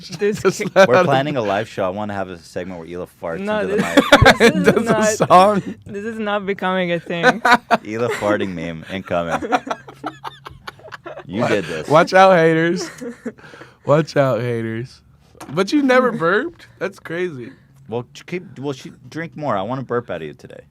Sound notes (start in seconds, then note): 3.6 laughs; 9.1 laughs